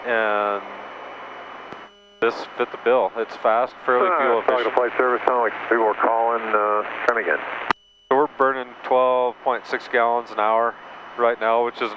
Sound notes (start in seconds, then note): 4.8 man mumbles over radio